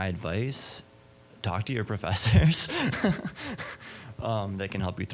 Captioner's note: laughing